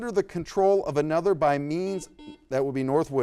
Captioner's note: buzzer beeps